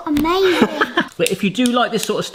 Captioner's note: laughing